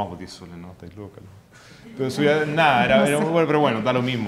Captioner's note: murmurs